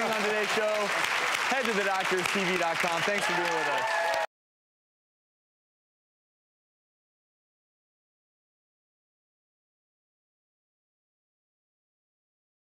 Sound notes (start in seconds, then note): 4.3 applause